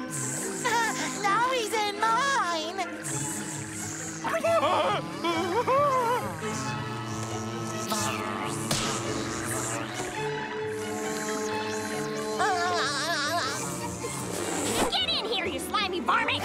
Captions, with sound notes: [laughing] Now he's in mine! [buzzing] [laughing] [buzzing] [buzzing] [laughing] Get in here you slimy varmint!